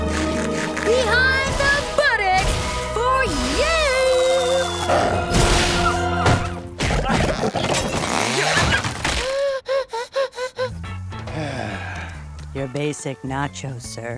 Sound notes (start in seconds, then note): 5.0 whimpering; 9.0 gasping; 11.2 sighing